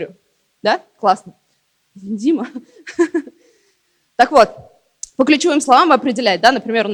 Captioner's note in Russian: смех